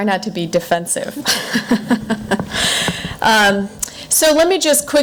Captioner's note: laughing